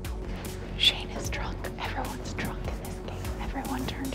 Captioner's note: whispering